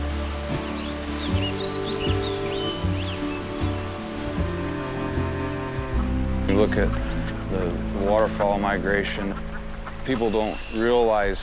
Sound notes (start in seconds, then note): 1.0 birds singing